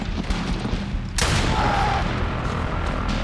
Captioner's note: screams